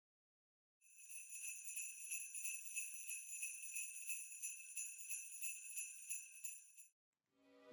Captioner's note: sleigh bells